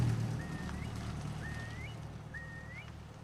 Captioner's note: burung berseru